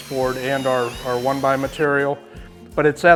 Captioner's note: drill whirling